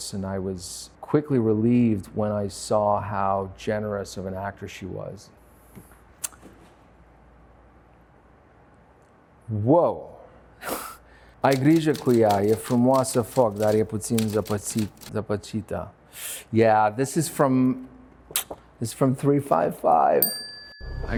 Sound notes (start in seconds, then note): 10.0 laughs; 11.3 Sebastian speaking in foreign language; 20.2 bell dings